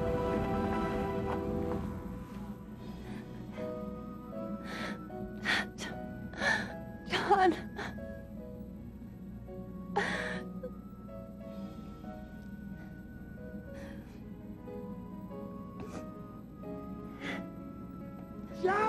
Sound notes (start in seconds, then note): 4.7 sobbing